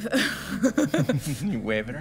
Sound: laughing

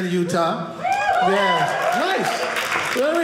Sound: audience cheering

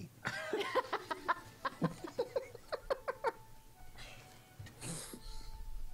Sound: laughter

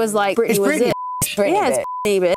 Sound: beep

